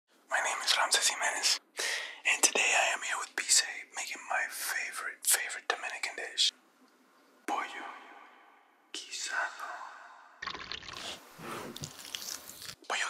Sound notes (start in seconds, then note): 7.6 echoes; 10.4 oil pours; 11.6 knife cuts in slow motion